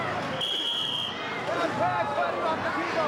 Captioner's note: whistling